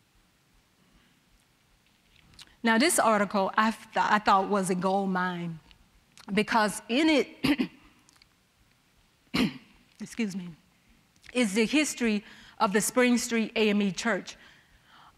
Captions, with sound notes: Now, this article, I thought was a goldmine because in it... (clearing throat) excuse me, is the history of the Spring Street AME Church.